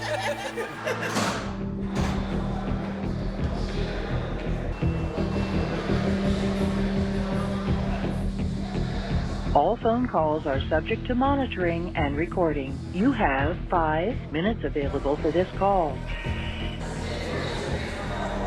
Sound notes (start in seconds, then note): 0.0 laughing; 10.4 recorded Voice; 16.5 dramatic tonal music